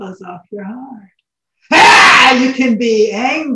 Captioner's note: shouts